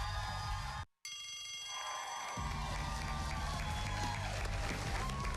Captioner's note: bell rings; cheers and applause